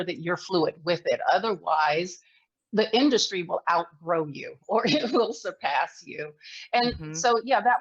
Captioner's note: laughs